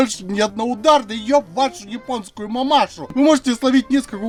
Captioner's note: cursed russian mambling